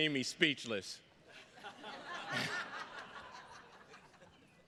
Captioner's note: attendees laughing